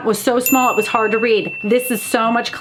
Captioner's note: bell dings